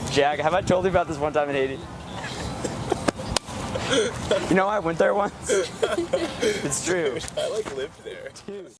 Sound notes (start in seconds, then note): 2.1 students laughing; 5.3 laughing